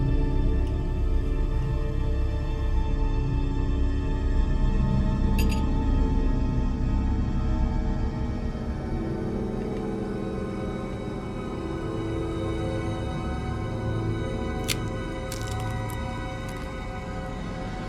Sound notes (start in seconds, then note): 5.4 spoon clattering; 14.4 cracker crumbling